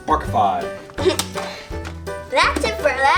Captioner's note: laughs